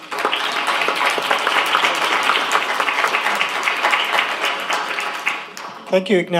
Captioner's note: applause